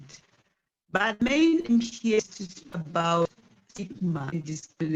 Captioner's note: distorted audio